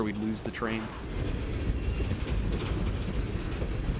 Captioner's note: train moving